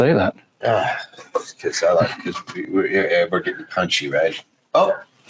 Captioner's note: grunts